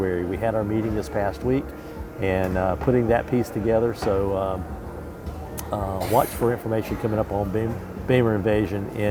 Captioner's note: um uh